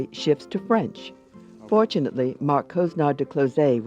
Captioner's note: speaking foreign language